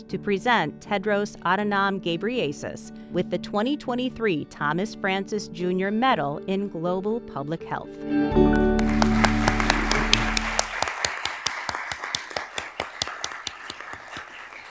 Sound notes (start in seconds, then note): 8.1 soft music; 8.5 attendees applauding